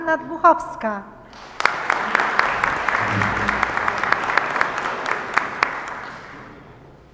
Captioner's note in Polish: oklaski